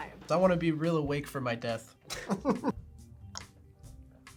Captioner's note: laughs